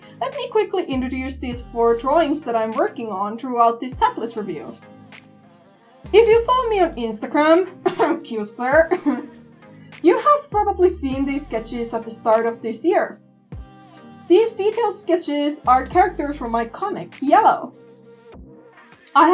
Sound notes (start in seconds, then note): 8.7 cough